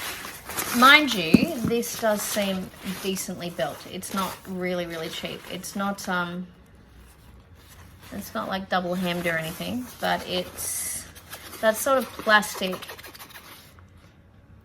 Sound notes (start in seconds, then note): 0.8 bag rustles; 11.0 fingernail scratches against fabric